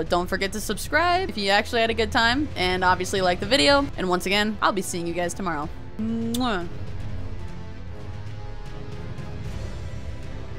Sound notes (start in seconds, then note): 6.2 kiss